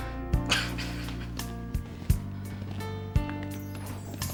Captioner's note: laughs; serene music